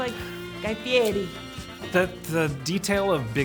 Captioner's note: Italian accent